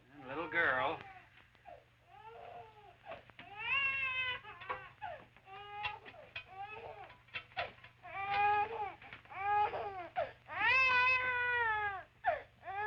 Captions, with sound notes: And the little girl? [baby crying]